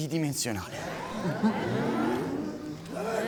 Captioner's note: crowd protests in confusion